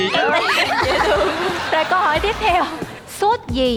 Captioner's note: laughing